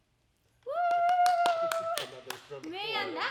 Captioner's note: cheering